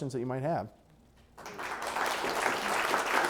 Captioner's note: applause